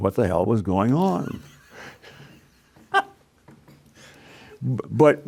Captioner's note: laughing